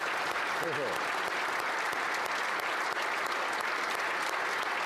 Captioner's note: applause